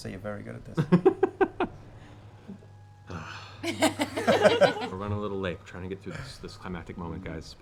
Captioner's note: giggles, sighs